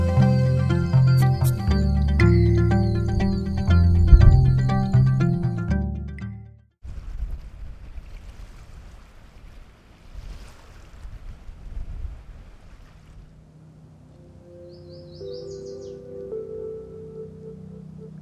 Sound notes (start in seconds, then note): 0.2 frogs calling; 4.1 thunder